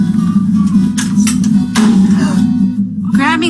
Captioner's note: fly buzzing; metallic clacking